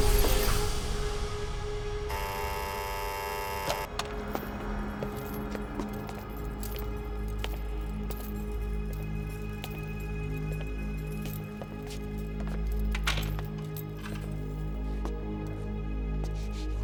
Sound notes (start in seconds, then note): 2.1 door buzzing; 4.7 chains clinking